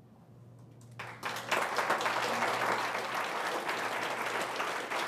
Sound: audience applauds

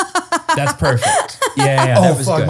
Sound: laughing

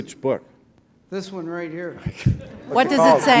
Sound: laughter

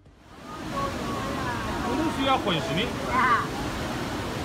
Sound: crowd chattering

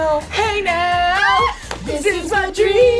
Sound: React screams

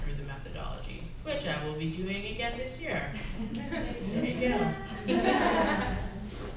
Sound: laughter

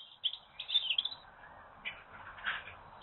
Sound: birdsong

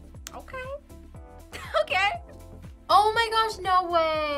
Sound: laughs

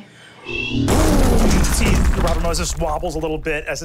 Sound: impact resounds

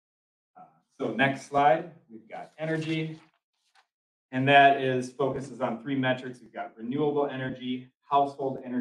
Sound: papers rustle

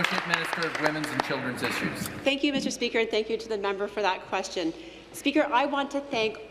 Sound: applause

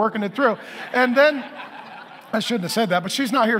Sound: congregation laughing

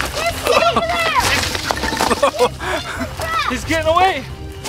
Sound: man laughing

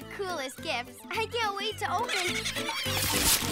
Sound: giggling

